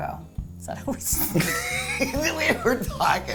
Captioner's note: laughs